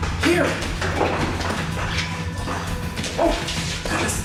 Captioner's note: footsteps get closer